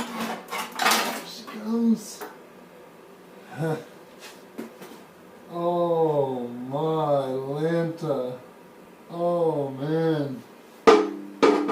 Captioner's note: huh